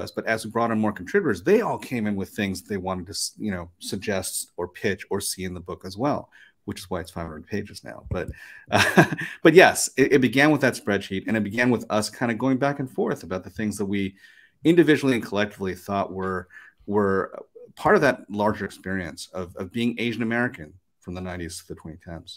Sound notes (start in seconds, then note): 8.3 chuckles